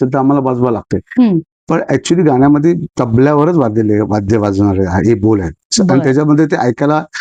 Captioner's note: rhythmic syllables